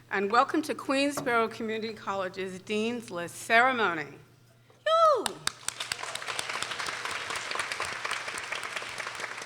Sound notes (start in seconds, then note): 4.8 exclaiming in excitement; 5.2 people applauding